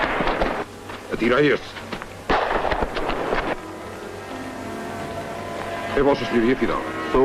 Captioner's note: shot. Music